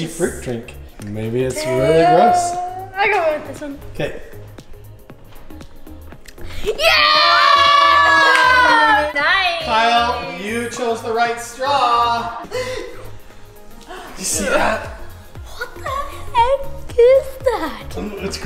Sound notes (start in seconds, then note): 6.9 all yelling; 12.4 gasping